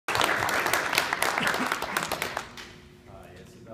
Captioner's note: applauding